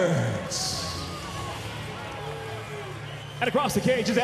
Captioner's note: cheering